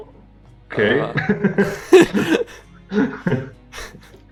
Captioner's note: смеются